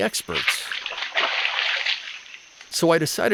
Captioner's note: water splashing